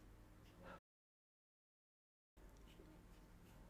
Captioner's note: silence